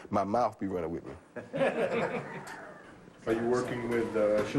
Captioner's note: laughter